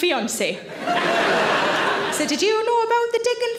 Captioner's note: audience laughs